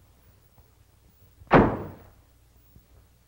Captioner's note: slam